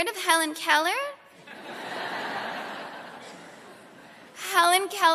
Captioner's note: laughter